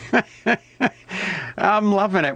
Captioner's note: laughs